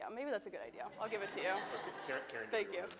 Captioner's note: attendees laughing